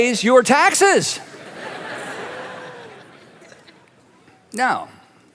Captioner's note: congregation laughing